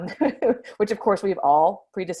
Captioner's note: laughs